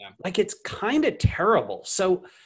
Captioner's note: none